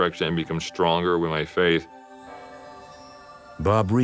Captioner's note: bell tolls